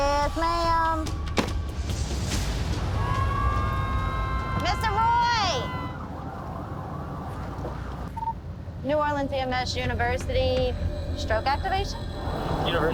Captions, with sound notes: Yes, ma'am. [dramatic music] [sirens] Mr. Roy. New Orleans EMS University stroke activation.